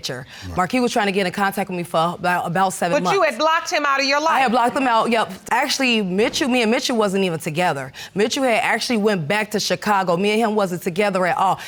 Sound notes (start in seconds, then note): none